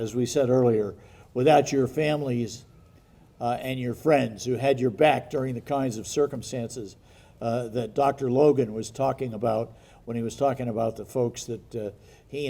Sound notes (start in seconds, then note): none